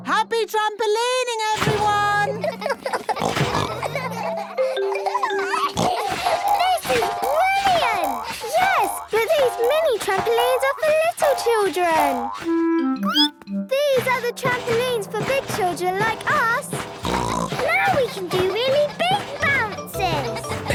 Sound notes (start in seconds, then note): 2.2 all laughing; 5.1 giggles, snorts; 13.8 squeaks; 17.2 snorts